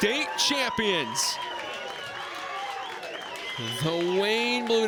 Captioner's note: crowd cheers and applauds